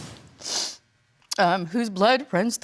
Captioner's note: sniffling